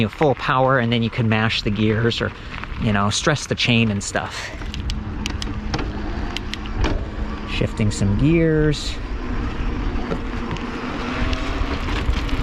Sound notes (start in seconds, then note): 6.3 clicking